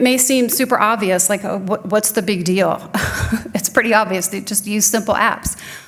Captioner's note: chuckling